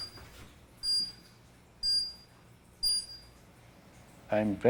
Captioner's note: machine beeping